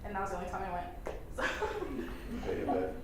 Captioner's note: laughs